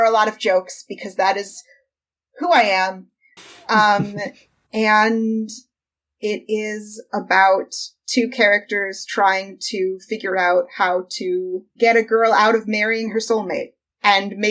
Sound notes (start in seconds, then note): 3.4 laughs